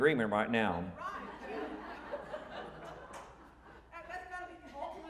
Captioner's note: audience laughing